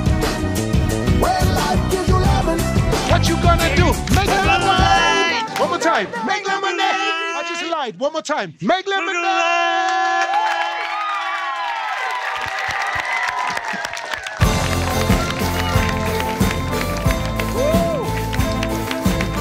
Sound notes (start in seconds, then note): 10.0 cheering; 13.8 clapping